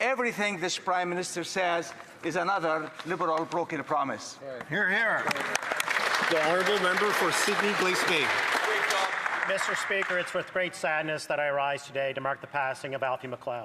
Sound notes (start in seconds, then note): 10.1 some Applause